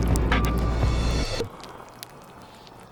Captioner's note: time start noise